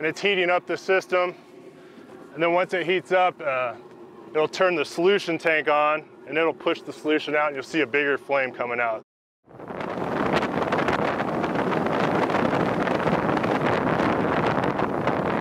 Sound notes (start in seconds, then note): 9.5 wind rushing